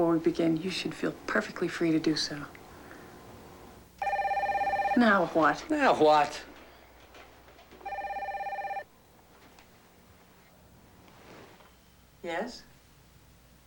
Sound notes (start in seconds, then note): 4.0 telephone rings; 7.9 ring